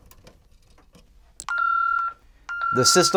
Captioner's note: beeping